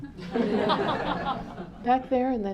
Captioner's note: laughter